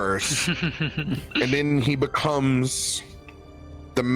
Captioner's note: laughs softly